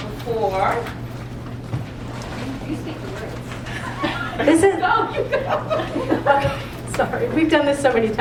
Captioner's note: laugh